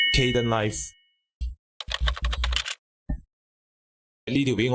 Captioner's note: key pressed